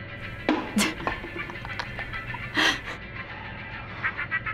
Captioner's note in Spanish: risas